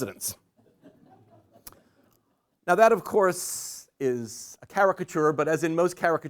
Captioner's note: laughter